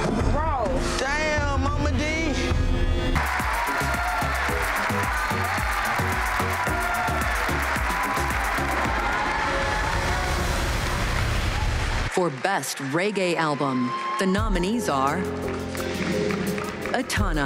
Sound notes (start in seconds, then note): 3.2 crowd cheering; 3.2 dance hall music